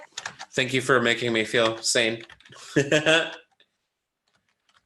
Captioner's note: laughs